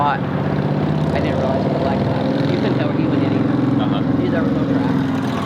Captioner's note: engine roaring